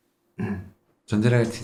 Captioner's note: clears throat